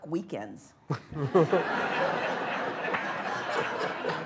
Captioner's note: laughter